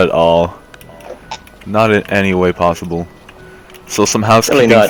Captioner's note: narrator voice